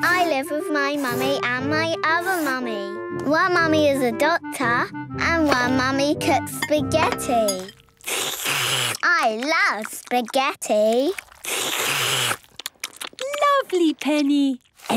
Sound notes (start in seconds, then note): 8.0 slurping; 11.5 all slurping